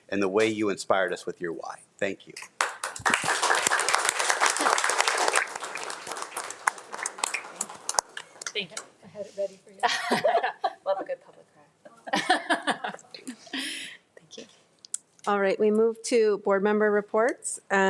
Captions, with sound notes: and the way you inspired us with your why. Thank you. (everyone laughing) - Thank you. - I had it ready for you. - Love a good public cry. (laughs) Thank you. - All right, we move to board member reports